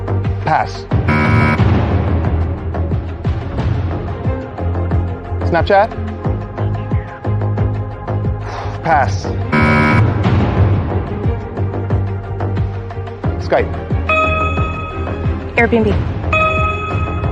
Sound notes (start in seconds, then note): 9.5 buzzer sounds